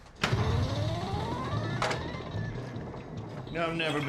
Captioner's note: pinball machine